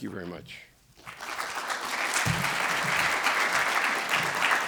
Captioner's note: audience applauds